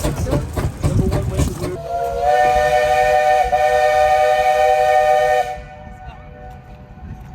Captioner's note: whistle sounds; train chugging